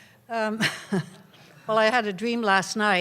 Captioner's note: laughs